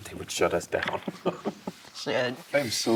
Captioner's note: laughter